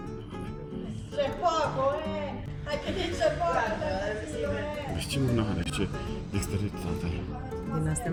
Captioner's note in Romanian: vorbind italiană